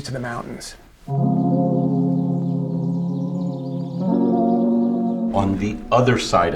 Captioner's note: mellow music; birds chirping